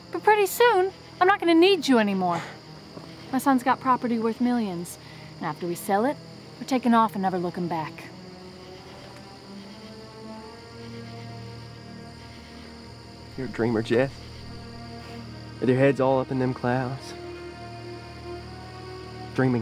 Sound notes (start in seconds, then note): 9.5 dramatic music; 11.3 insects chirping; 12.1 dramatic music